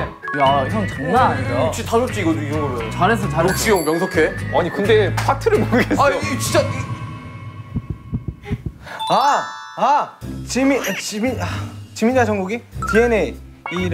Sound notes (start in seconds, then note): 7.5 throbbing